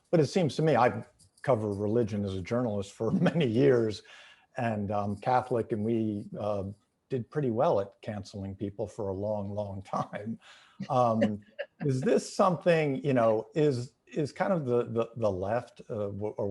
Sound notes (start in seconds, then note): 2.5 chuckling; 10.8 laughing